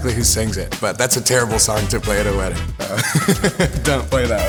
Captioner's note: laughs